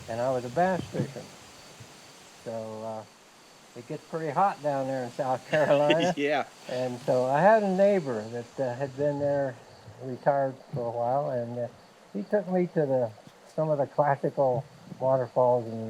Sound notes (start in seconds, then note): 5.1 laughing lightly